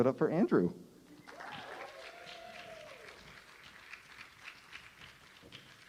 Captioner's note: cheers and applause